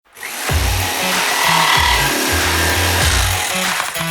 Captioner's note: saw blade whirring; upbeat music